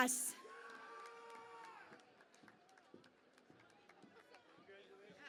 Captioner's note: cheering and Applause